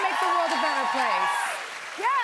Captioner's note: cheers and applause